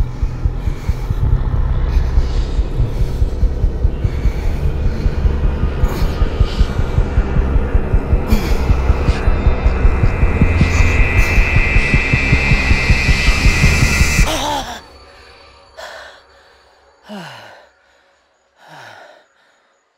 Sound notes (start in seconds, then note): 14.4 Andrew screams; 17.0 Andrew exhales